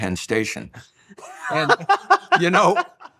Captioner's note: laughing